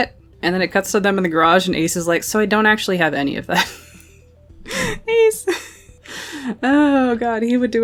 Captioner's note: laughing